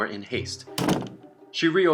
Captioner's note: door slams